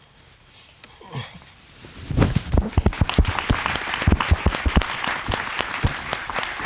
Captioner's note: audience applauding